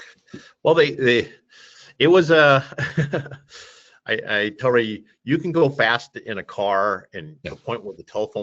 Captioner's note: laughs